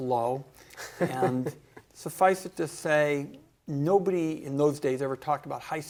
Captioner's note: laughter